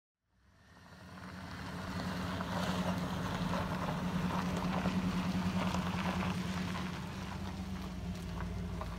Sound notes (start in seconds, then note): 4.7 wheels across gravel and the rumble of an engine